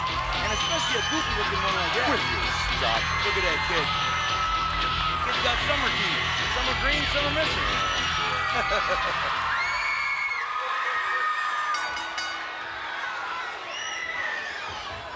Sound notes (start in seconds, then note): 8.5 laughs; 11.7 bell rings